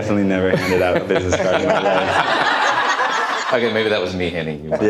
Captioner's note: audience laughter